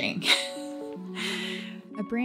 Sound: chuckles

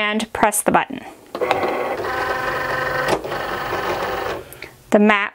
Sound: machine whirs

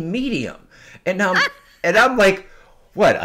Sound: laughing

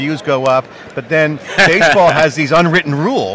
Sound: laughing

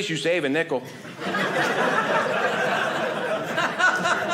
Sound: audience laughing

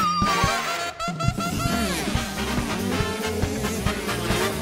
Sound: engines revving

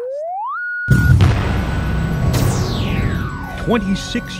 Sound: sound Effects

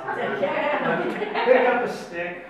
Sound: audience laughs

